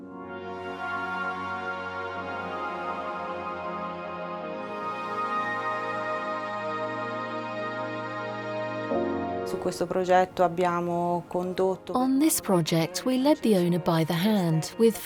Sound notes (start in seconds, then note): 0.1 soothing techno music; 9.6 speaking in foreign language